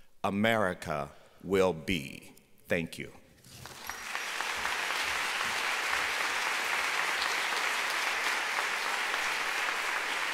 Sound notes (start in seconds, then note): 3.5 applause